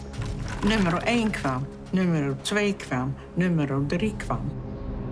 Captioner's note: speaking foreign language